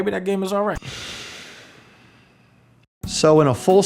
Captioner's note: sigh